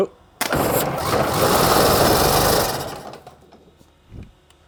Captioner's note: engine roars